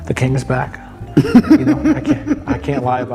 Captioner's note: laughs